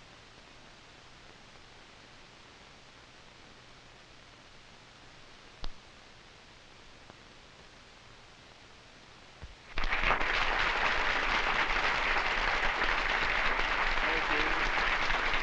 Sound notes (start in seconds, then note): 9.7 applause